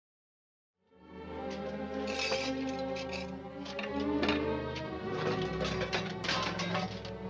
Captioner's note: dramatic music; metal clanking